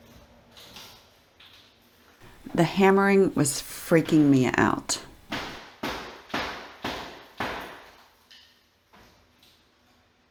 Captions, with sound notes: The hammering was freaking me out. [Hammering]